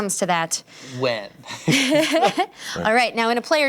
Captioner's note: laughs